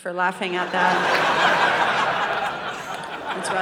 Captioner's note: audience laughing